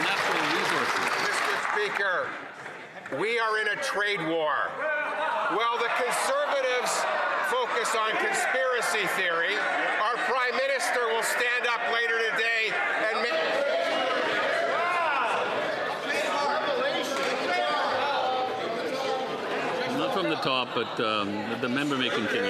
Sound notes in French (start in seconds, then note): 8.5 voix de l'interprète